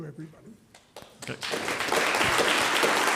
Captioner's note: audience applauding